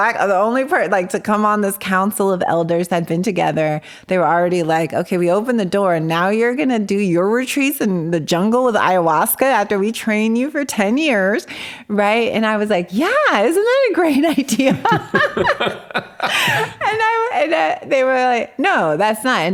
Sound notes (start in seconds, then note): 14.7 both laughing